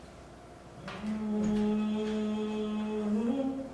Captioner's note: actors humming